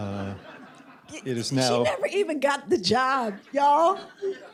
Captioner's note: laughter